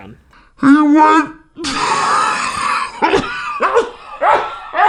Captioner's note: laughing